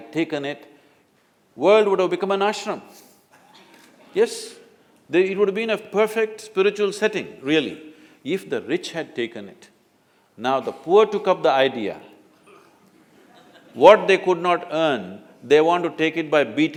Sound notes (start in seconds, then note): 12.8 few Laugh